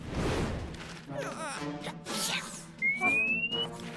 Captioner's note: sighs, sneezes; whistles